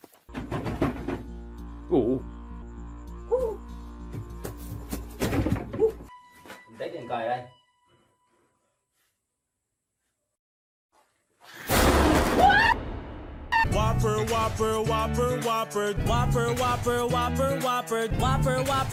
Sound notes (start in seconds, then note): 2.0 groans; 6.6 speaks in foreign language; 12.0 yelling